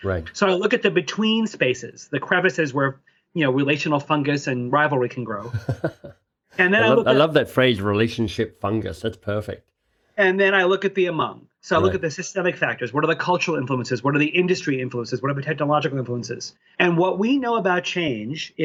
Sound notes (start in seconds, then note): 5.4 chuckling